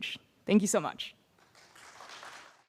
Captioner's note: applause